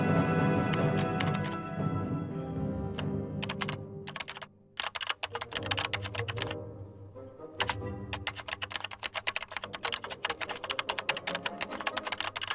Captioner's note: keyboard clicking